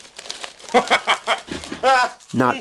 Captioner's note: keeps laughing